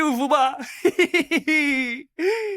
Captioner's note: laughs